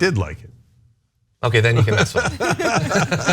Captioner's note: laugh